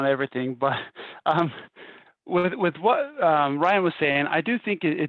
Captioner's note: laughter